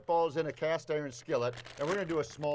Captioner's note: package crinkles